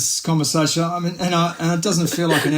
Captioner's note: laughs